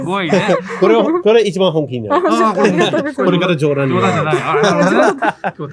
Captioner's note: laughs